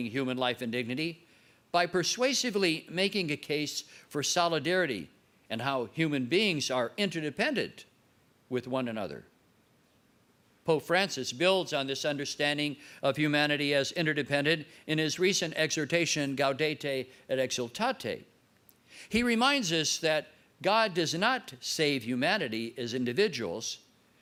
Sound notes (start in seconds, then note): 15.9 foreign words